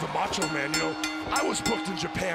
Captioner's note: bell ringing